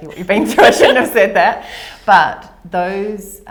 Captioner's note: laughter